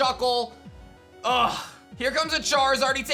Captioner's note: scoffs